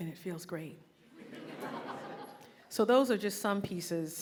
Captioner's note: audience laughing